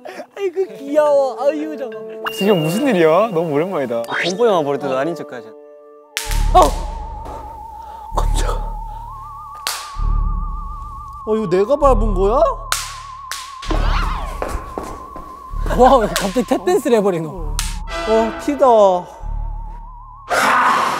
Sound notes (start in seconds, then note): 9.5 bang snaps; 12.7 popping sparks